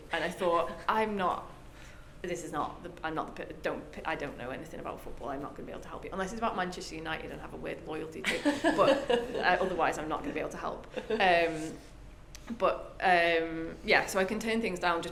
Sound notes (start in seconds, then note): 8.3 laughs